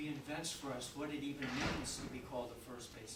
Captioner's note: door thudding